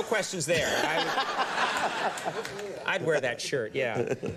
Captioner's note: laughs